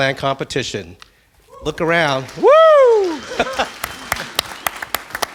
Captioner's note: applause